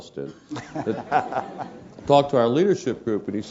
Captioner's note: laugh